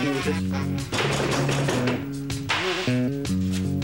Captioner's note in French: On frappe à la porte